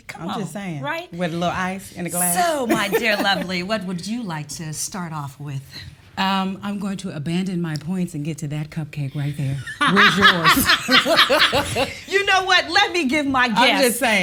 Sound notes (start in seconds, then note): 2.6 laughs; 9.6 laughs